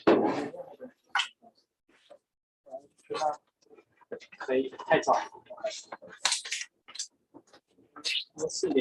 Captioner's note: background chatter